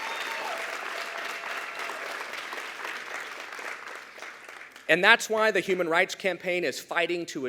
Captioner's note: cheers